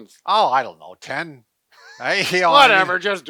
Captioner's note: laughs